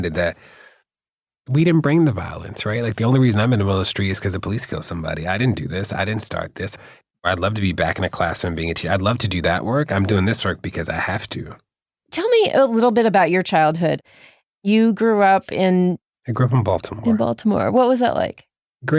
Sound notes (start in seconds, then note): none